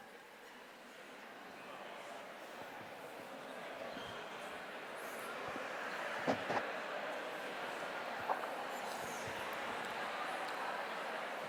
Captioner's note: indistinct chatter